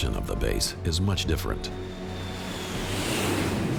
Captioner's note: jets soaring